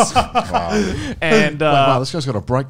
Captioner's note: laughing